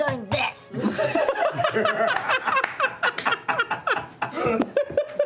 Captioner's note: laughter